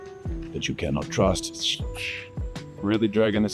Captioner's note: snake sounds